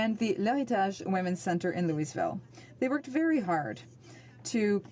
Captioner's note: speaking French